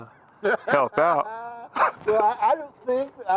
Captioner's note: Henry laughing